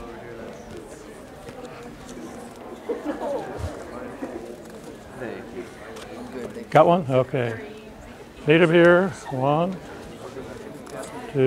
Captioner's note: audience chatter/ papers ruffling